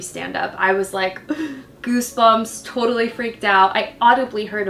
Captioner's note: gasps